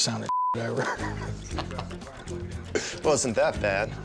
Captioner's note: laughs